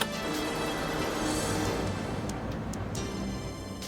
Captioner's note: motors buzzing